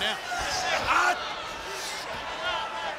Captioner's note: crowd cheering